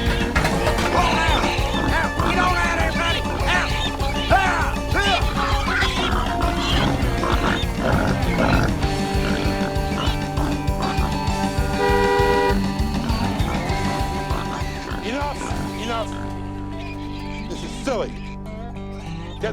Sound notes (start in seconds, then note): 11.7 honk